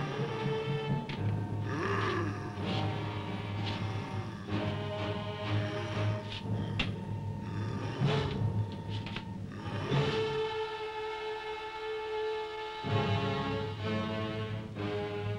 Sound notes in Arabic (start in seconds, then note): 0.0 موسيقى مثيرة; 1.6 هدير بوبوكا